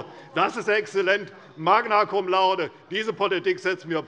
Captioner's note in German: none